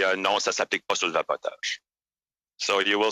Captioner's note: speaking French